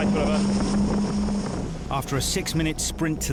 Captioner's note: outboard droning